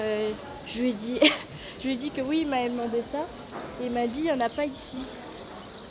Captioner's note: cough